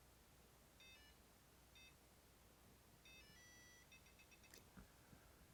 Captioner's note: powerbolt softly beeping